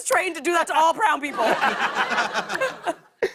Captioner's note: laughter